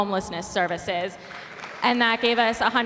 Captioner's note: applause